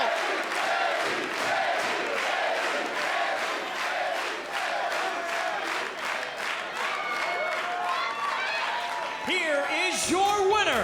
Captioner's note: crowd cheering